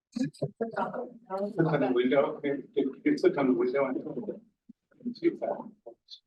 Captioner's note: audio distorting